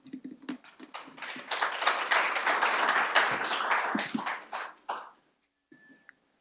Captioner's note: applause